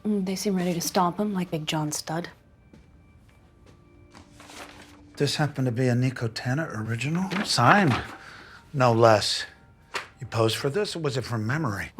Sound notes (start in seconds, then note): 3.9 papers rustling